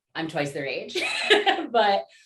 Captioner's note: laughter